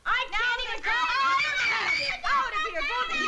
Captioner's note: screaming